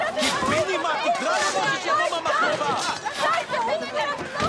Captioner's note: man and woman shout in hebrew